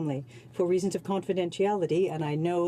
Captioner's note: speaking French